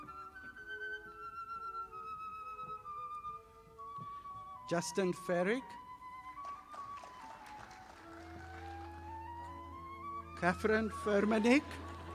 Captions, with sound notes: Justin Ferek. (audience applauding) Katherine Fermanich.